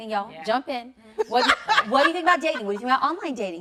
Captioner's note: laughing